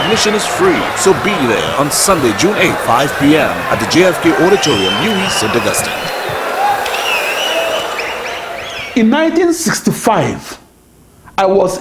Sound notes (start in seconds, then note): 5.0 wild applause and cheering for 22 seconds